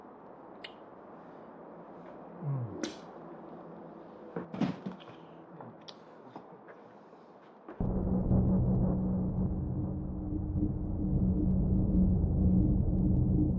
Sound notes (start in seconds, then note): 2.4 Logan moans; 7.8 eerie music